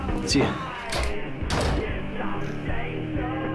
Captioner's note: door Closes